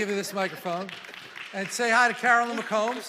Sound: congregation applauding

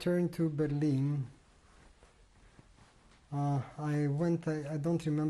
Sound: pauses for 3 seconds

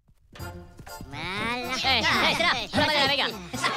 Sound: lots of talking

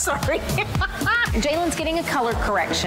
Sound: laughs

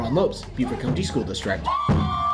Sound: cheering

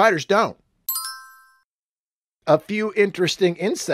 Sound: chimes

